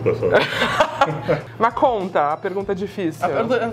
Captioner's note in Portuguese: risos